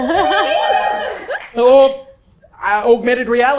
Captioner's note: crowd woo